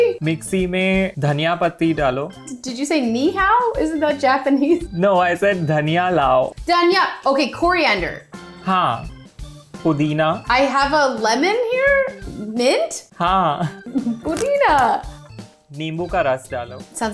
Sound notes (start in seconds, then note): 0.3 speaking in Hindi; 5.5 speaking in Hindi; 8.4 speaking in Hindi; 13.2 speaking in Hindi; 14.2 speaking Hindi; 15.8 speaking in Hindi